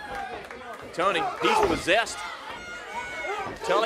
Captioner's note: crowd cheering